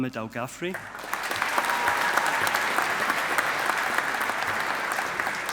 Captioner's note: audience applauding